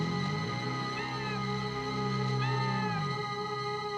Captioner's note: ominous synth music; cat meowing